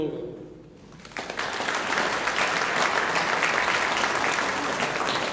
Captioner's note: audience applauding